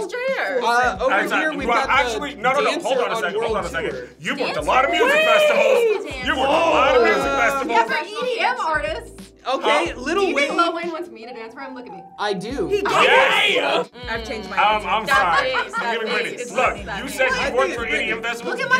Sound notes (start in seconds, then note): 4.5 group yells